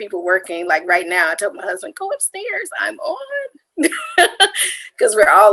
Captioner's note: laughs